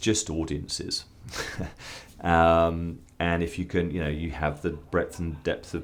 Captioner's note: laugh